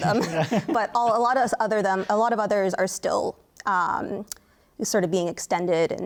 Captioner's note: laughter